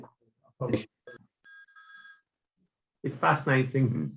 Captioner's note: telephone ringing